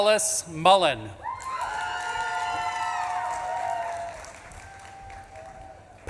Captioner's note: audience claps and cheers